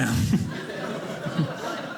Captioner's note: audience laughing